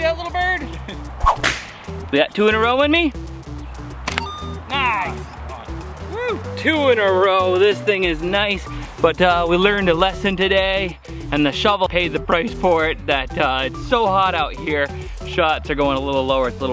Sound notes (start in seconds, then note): 4.0 slingshot fires